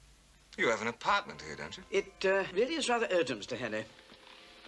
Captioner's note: none